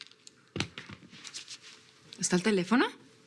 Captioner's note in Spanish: Sonido al soltar el teléfono